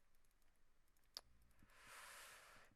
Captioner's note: really loud breath